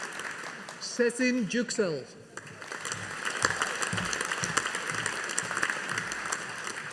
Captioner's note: audience applauding